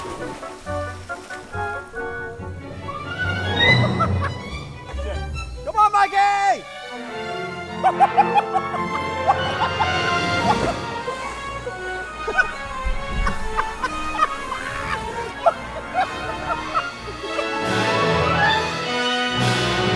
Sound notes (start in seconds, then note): 0.1 water splashing; 2.7 laughing; 7.9 laughing; 10.4 water splashing; 12.5 dramatic instrumental music